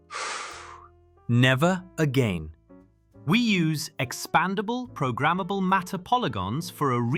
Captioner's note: breathing heavily